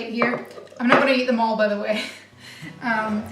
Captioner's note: laughs